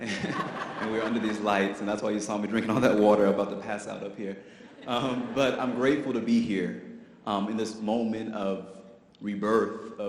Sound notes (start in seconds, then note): 5.3 audience laughs